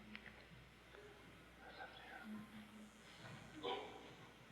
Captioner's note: Vidyadhara whispers